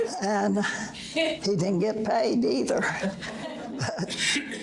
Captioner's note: audience laughter